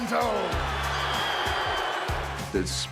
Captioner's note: crowd booing